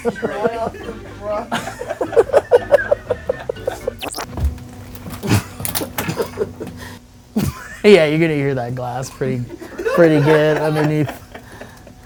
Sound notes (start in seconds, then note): 5.4 glass crunching; 7.7 laughing